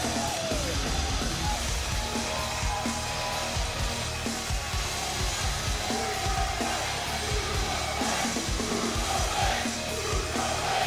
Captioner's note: cheers and applause